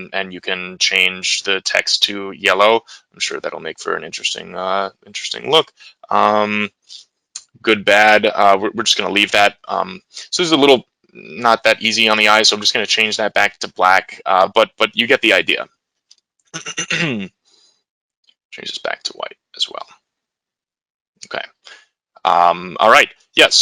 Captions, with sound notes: and you can change the text to yellow. I'm sure that'll make for an interesting look. Good, bad. We're just gonna leave that. So, this is a little, not that easy on the eyes. So, I'm just gonna change that back to black, but you get the idea. (clears throat) Change this back to white as well. Okay, all right, yeah.